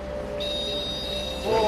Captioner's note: buzzing sound is heard from the REM pod